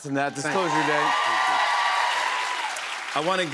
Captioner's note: cheers and applause